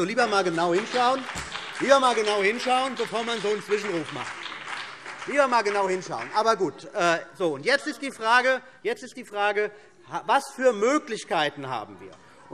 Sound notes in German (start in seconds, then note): 4.9 Heiterkeit und Beifall CDU und BÜNDNIS 90/DIE GRÜNEN